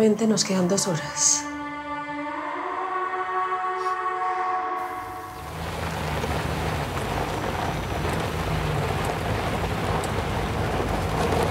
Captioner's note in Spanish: Sonidos del vehículo